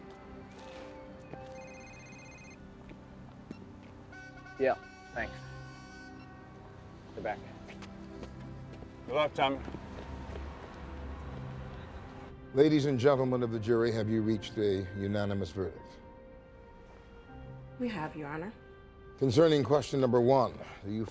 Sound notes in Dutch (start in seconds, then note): 1.3 phone rings; 4.1 horn blowing